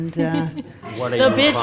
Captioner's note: audience laughs